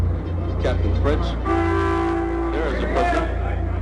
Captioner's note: car horn